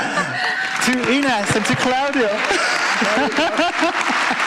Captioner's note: applause